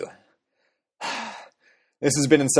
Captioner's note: sigh